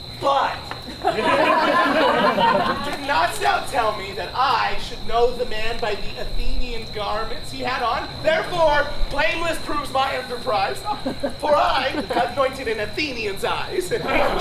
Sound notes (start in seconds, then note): 0.8 audience laughs